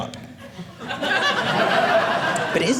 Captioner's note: audience laughing